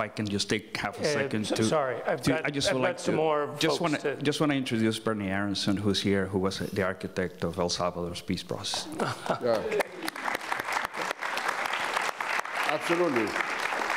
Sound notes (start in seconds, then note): 9.0 audience applauds